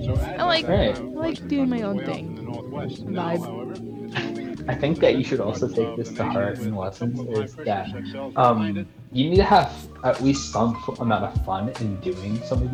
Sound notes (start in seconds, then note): 3.9 smol laugh